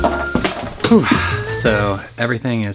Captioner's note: grunts